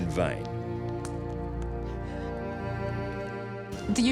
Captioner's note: melancholic music; gasps